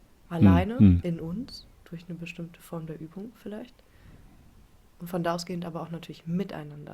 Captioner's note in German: räuspern